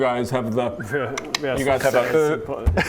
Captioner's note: whistles